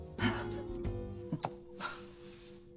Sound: laughing

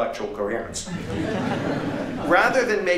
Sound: laughter

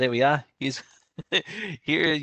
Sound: laughs

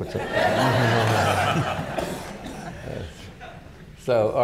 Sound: laughter

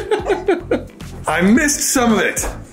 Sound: laughing

